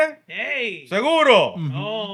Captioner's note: speaking Spanish